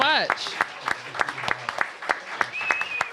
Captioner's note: applause